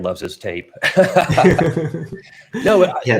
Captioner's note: both laughing